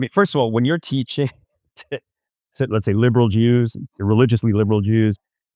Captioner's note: laughs